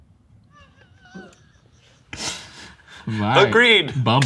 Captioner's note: laughing